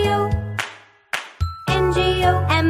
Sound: clap

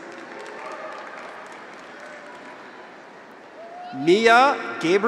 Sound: audience applauds; graduates cheer

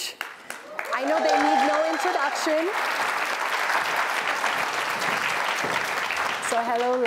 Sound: applause

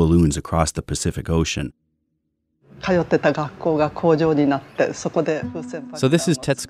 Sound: speaking Japanese

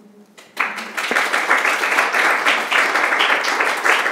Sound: applause

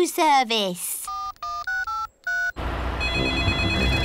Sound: dialing; phone rings

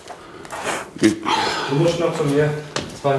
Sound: groan

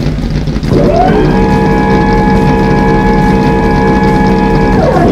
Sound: SPFT's engine starting up; garage door opening

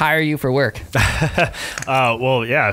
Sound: laughing

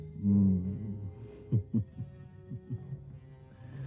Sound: chuckles

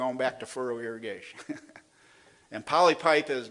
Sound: laughs

